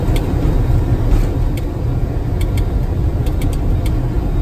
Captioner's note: clicking buttons